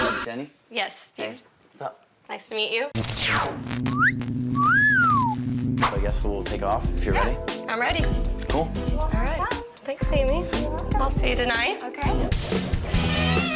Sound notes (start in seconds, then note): 4.5 whistling